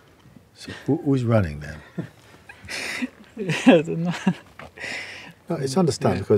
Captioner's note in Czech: smích